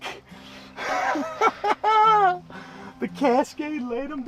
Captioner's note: laughs